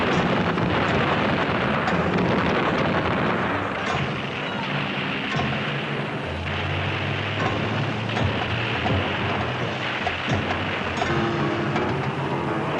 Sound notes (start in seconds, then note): 0.1 explosions booming; 6.9 tanks roaring